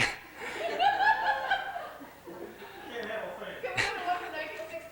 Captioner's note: laughter